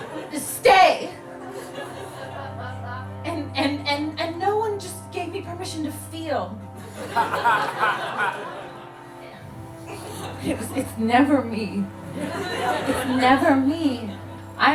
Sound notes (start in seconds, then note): 0.0 audience laughing; 6.8 audience laughing continues